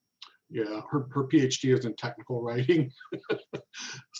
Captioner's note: laughs